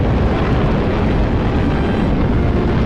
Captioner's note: roaring